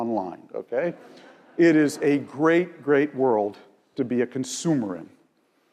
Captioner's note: laugh